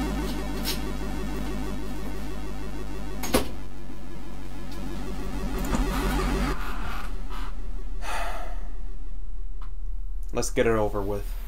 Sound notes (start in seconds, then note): 7.9 sighs